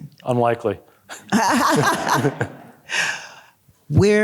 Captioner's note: laughing